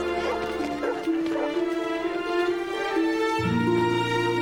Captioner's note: children chattering; dog barking